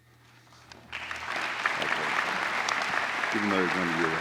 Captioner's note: applause